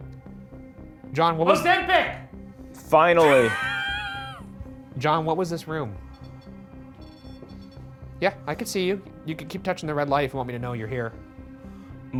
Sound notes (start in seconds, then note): 3.2 Ryan laughing; 6.2 REM pod beeping